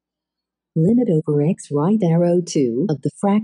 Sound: automated voice

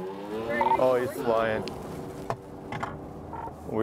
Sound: honking

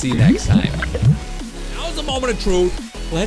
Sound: bubbles gurgle

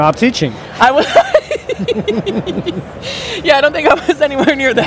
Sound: laugh

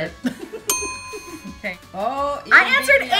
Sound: laughing

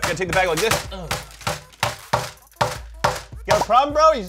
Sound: banging noise

